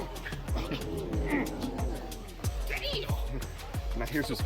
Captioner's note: people groaning; upbeat music